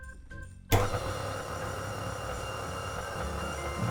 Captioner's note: mixer whirring